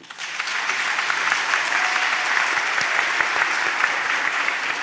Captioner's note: applause